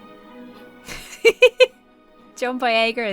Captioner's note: laughs